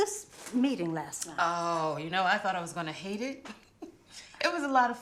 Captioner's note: laughs